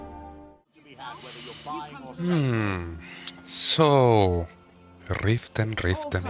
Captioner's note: deep breath